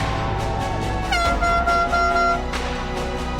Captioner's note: horn honking